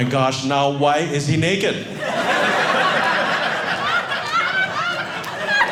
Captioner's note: audience laughing